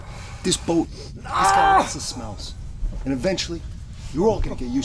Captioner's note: yelling